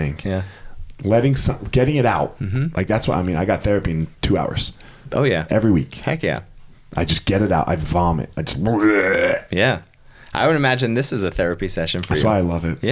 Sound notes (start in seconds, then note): 8.7 retching